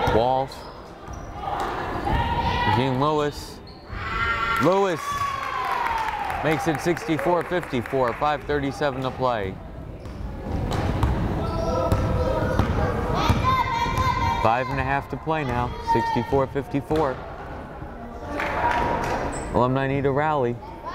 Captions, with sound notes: Walsh, Jean-Louis! Louis, makes it 64-54, 5:37 to play. (fan shouting) Five and a half to play now, 64-54. Alumni need a rally.